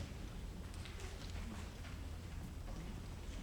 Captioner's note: none